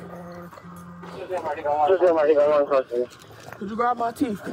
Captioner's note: radio chatter